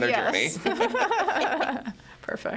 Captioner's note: all laugh